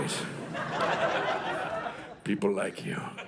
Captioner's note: audience laughing